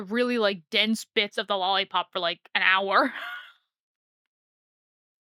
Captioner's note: laughs